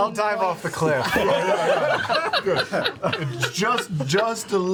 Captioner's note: laughter